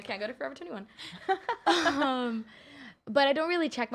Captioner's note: laughing